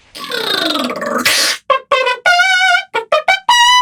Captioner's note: beatboxing